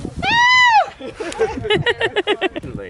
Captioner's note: laughter